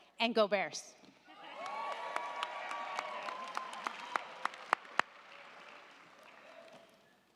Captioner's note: crowd cheering; crowd clapping